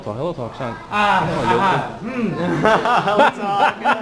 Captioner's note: mandarin